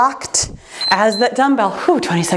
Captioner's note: timer beeps